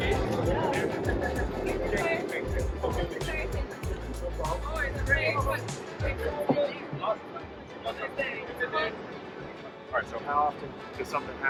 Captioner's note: traffic Noise